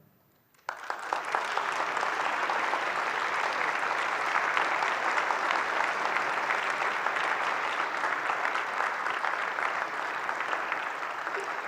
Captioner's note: applause